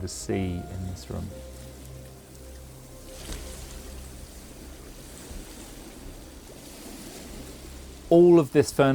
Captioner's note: sea sound